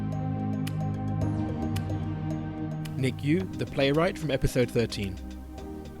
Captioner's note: voiceover